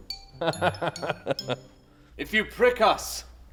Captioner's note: laughs